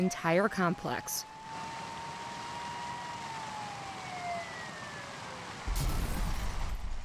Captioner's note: SIRENS WAILING,</b> <b>WATER SPRAYING; glass breaking